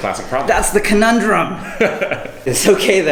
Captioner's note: laughs